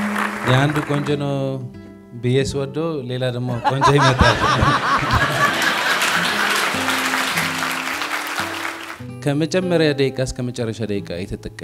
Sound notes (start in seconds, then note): 0.0 scream and applause; 3.4 laughter; 5.7 applause